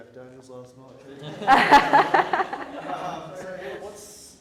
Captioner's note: audience laughs